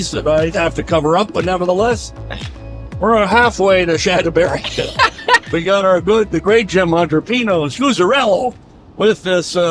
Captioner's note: laughing